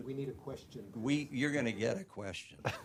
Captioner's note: laughter